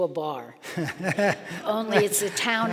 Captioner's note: laughing